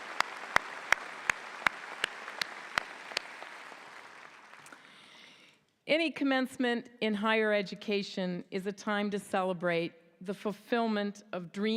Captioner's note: applause